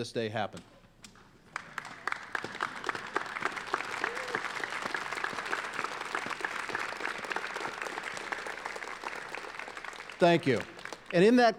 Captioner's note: applause